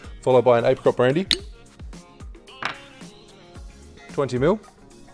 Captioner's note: lid pops